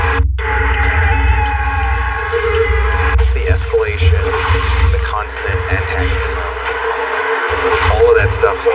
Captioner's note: siren wailing